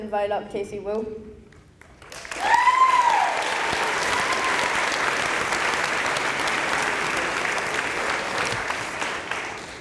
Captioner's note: applause